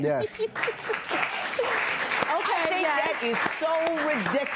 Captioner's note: laughs